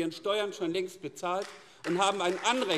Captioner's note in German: Beifall AfD